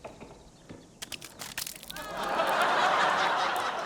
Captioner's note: splattering; laughter